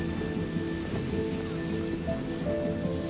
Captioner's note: none